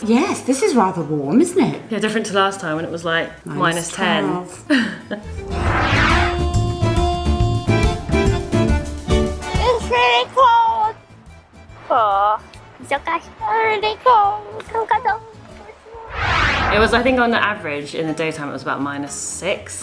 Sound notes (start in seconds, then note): 4.8 laugh